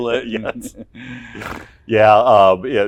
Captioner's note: laughs